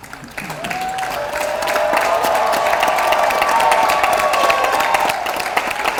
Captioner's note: audience cheers and applauds